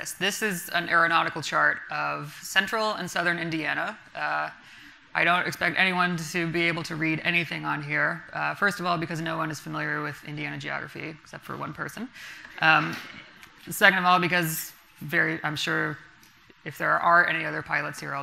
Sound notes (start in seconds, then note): none